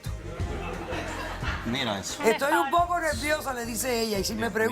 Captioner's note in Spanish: Algunas risas y comentarios